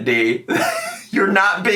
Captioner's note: laughing